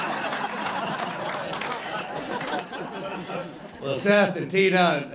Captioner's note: laughter